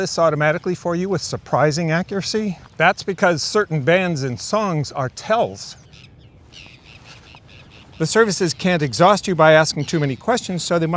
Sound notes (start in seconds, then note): 5.6 birds cawing